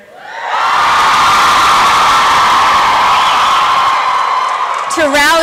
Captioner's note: applause and cheering